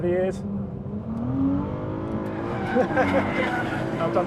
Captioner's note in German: Motor dröhnt; Reifen quietschen; lacht